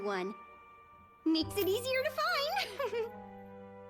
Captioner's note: chuckles